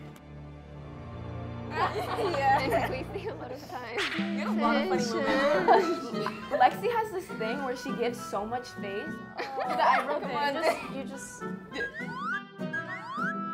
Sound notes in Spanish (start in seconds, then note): 4.5 Charla, charla